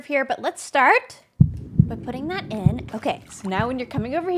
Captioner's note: heartbeat